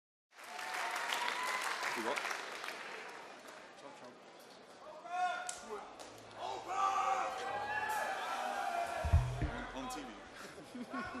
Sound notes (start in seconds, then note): 0.4 audience cheering; 6.4 audience cheering; 10.4 laughs